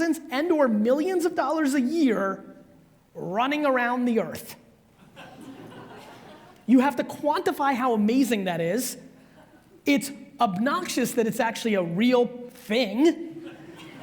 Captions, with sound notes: and or millions of dollars a year, running around the earth. (audience laughs) You have to quantify how amazing that is. It's obnoxious that it's actually a real thing.